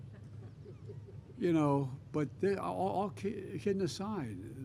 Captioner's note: laughter